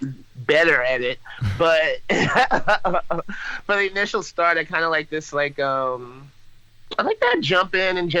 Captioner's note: laughs